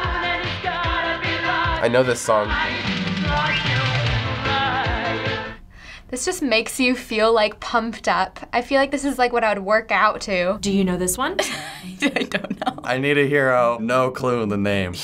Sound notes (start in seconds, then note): 11.4 laughing